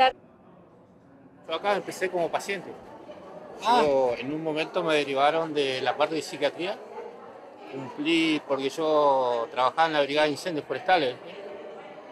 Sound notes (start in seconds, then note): none